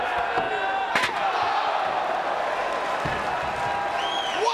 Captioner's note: crowd exclaiming; chair clunking; crowd cheering